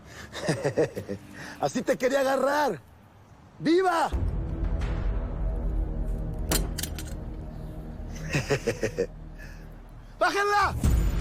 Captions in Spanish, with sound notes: [Se ríe] - Así te quería agarrar. Viva. [Ruido al dejar caer el arma] [Se ríe] ¡Bájenla!